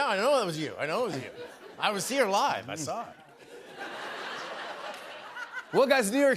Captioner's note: laughter